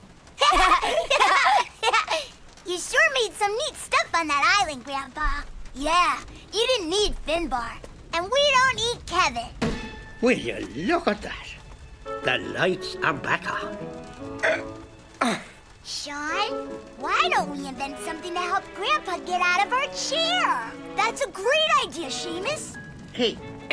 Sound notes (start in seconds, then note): 0.4 Sean and Seamus laughing; 14.4 grunting